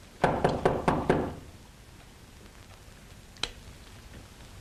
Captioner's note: knocking at door